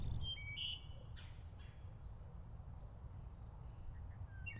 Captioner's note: birds chirping